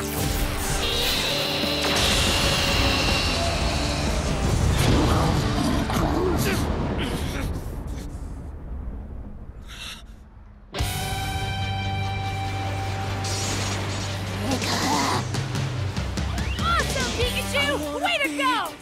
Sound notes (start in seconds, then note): 4.9 grunting